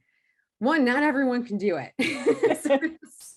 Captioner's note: laughs